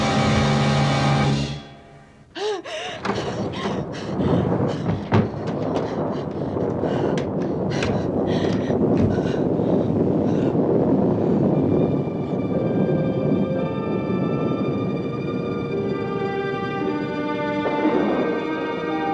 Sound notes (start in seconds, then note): 2.4 gasping - panting; 5.3 thunder continues rumbling; 10.4 eerie music